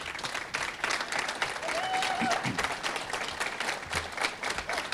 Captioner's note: audience clapping and cheering